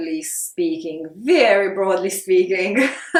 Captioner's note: chuckles